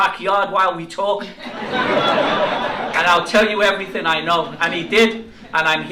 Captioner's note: laughter